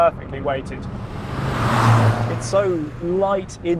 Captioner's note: car roaring